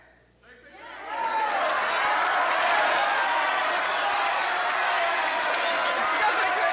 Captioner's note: crowd clamoring